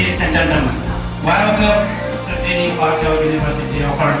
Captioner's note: speaking Chinese